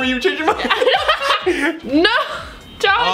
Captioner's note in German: lacht